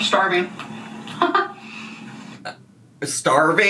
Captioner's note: Amberlynn laughing